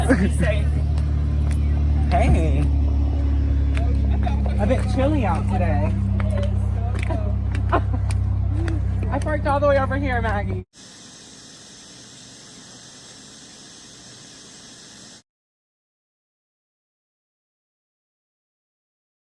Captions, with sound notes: -I hate you. -Bye, guys, be safe. Hey! A bit chilly out today. It is. (chuckling) I parked all the way over here, Maggie. (static hissing)